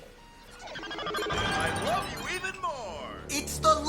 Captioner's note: voice from computer